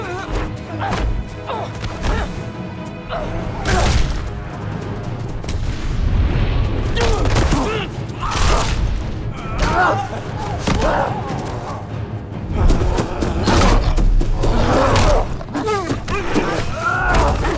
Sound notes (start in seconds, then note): 14.3 groans